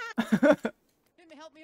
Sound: laughing

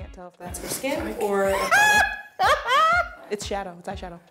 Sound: laughing

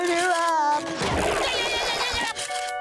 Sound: yelling

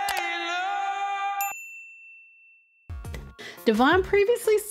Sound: bell rings

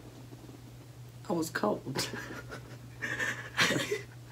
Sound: laughter

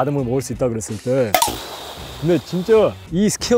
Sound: phew

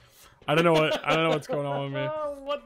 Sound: laughs

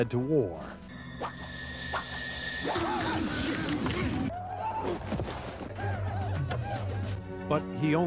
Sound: war Sound Effects

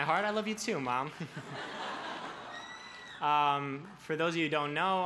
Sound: laughs

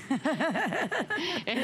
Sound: laughter

